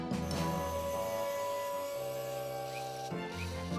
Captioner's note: hydraulic Whir; drill Whines